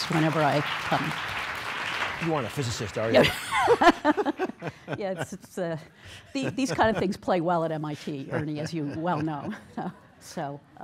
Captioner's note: laughs